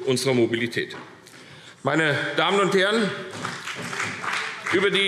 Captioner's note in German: Vereinzelter Beifall CDU und BÜNDNIS 90/DIE GRÜNEN